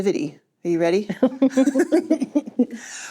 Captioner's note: chuckling